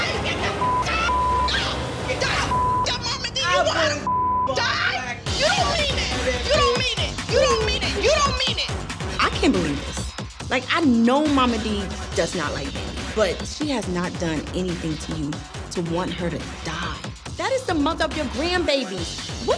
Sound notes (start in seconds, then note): 0.5 beep; 1.5 both yelling; 4.0 beep